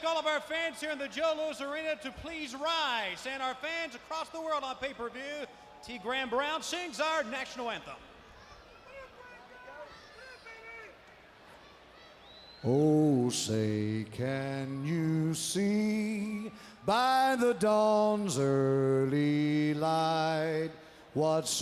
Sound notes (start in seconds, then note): 9.9 crowd chatter